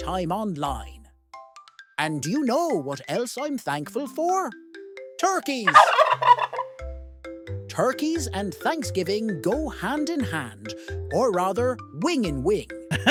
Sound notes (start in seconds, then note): 5.6 turkeys gobbling; 12.9 chuckle